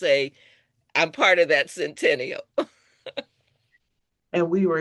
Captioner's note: laughs